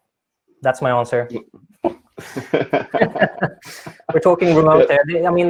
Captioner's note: laughing